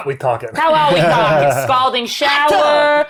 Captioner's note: laughing